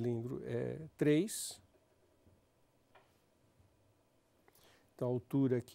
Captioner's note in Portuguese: silêncio